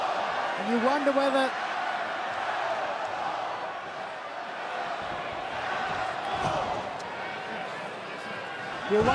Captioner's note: crowd cheering